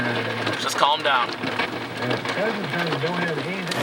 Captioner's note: hail pattering